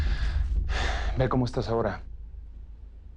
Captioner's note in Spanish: Felipe exhala